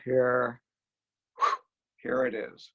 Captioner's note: exhales